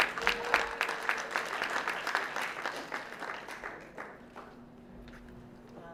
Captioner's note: applause